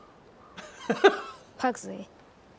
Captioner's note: man laughing